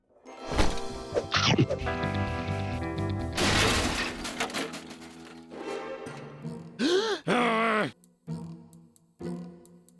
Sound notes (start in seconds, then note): 3.4 clattering noise; 6.8 gasp; 7.1 loud grumbling